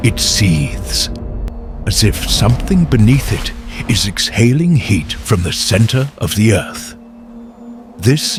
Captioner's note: seethes